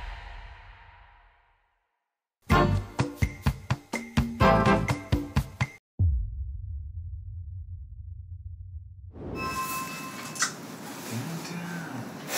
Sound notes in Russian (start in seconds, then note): 2.5 музыкальная заставка; 9.4 дверной звонок